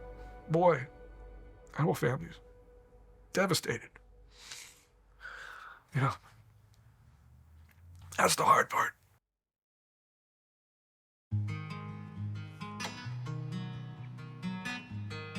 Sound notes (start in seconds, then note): 5.2 sniffling; 11.3 somber guitar music